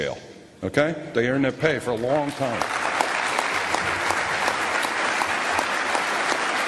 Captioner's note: applause